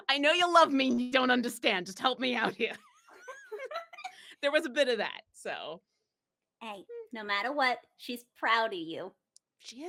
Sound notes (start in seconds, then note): 2.5 both laughing